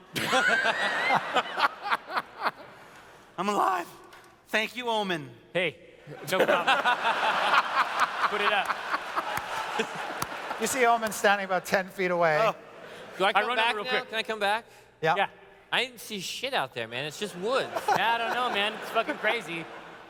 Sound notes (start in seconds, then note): 0.0 laughter; 6.1 laughter